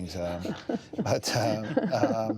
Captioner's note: laughter